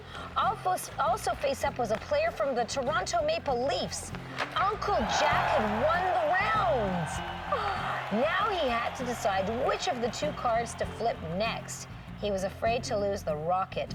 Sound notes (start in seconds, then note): 7.4 gasping